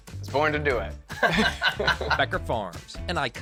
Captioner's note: both laughing